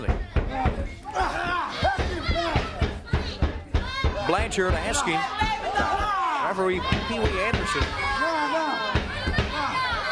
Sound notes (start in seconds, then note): 1.2 crowd chatter; 7.9 crowd chatter; 9.8 crowd cheering